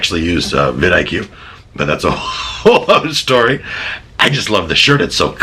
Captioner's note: laughs